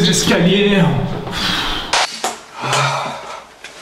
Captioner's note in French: Soupir; Soupirs et grognements de douleur